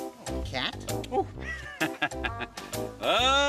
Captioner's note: laughing